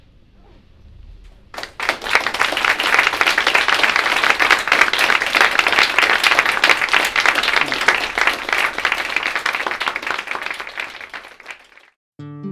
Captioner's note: applause